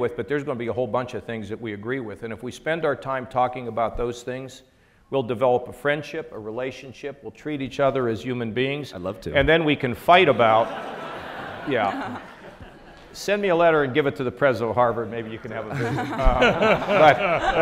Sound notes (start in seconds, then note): 10.2 audience laughs